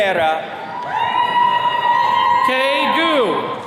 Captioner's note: attendees cheering